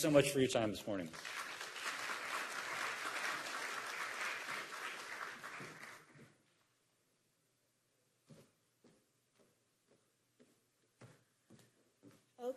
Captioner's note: applause